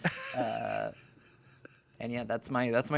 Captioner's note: laughs